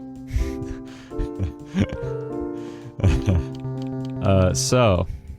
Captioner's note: laughing even more